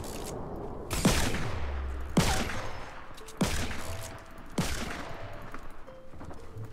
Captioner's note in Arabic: طلقات نارية